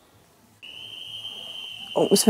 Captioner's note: whistle